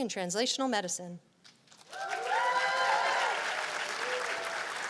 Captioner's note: cheers and applause